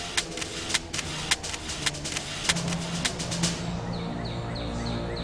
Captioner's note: shutter clicking; birds singing